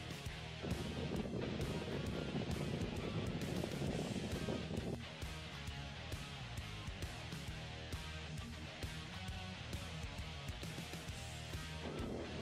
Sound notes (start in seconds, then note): 0.0 fast upbeat music; 0.5 wind rumbles; 5.5 fast upbeat music; 11.8 wind rumbles